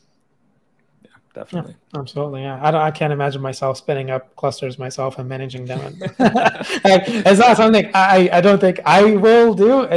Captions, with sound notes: - Yeah, definitely. - Yeah, absolutely. I can't imagine myself spinning up clusters myself and managing them and... (panelists laugh) It's not something, I don't think, I will do